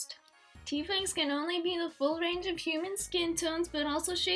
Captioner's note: higher pitched voice